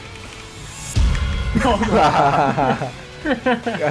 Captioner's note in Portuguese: risos